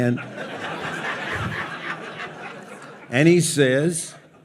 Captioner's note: audience laughs